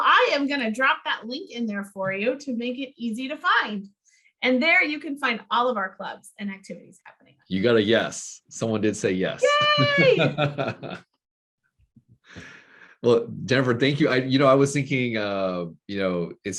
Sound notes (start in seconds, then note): 9.4 laughing